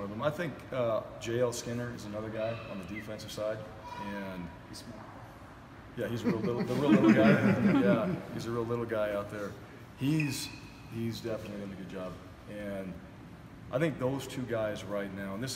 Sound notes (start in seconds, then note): 6.2 laugh